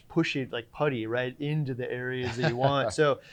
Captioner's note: chuckling